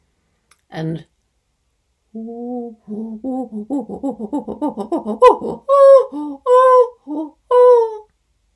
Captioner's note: chimpanzee pant hoot call